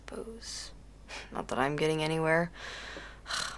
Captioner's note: chuckles; sighs